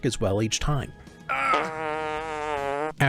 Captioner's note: Gale grunts